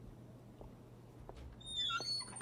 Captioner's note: door opens